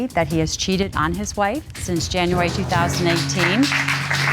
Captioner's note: audience applauding